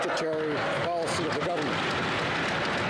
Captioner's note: crowd Noise